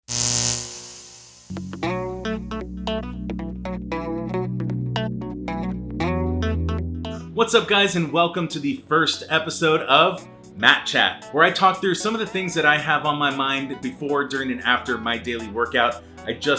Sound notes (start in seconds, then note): 0.0 electricity buzzing; 1.9 upbeat music